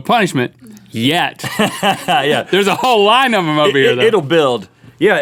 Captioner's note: laughs